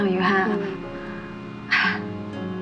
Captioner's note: chuckles